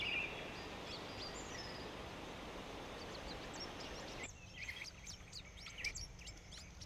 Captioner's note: birds chirping